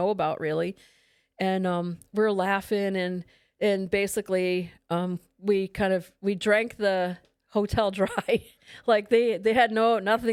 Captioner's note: laughs